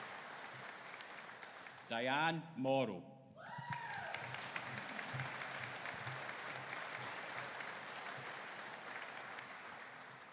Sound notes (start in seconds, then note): 3.4 audience cheering